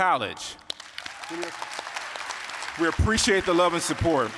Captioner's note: applause, cheering